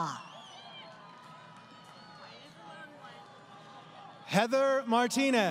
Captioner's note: crowd Cheering